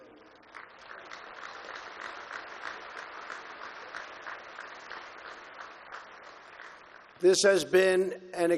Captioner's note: applause